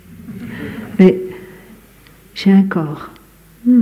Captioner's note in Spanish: Risas